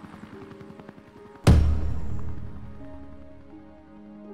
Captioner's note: stamp thuds